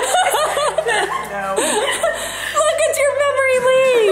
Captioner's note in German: lacht